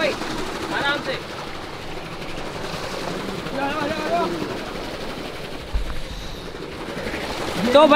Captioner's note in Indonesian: Suara turbin